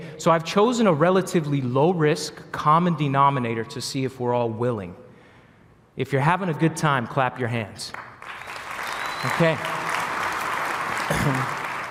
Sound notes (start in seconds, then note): 7.9 applause